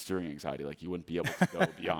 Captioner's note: laughing